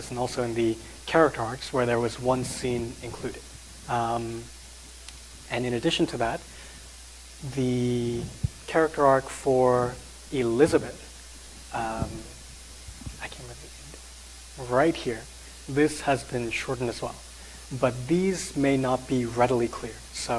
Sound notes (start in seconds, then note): 12.8 whispering